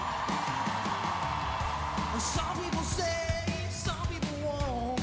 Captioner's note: applause